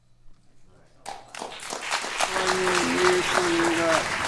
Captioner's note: applause